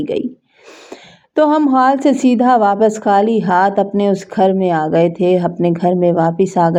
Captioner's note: gasp